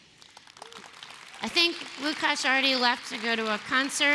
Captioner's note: applause